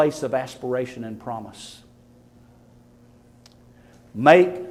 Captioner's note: none